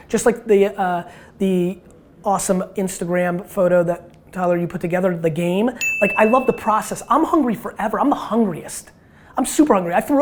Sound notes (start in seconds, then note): 5.8 bell chimes